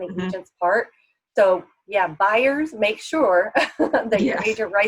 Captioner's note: laughs